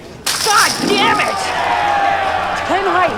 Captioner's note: chips clatter; spectators cheering